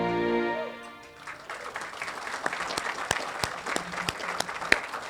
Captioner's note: audience applauding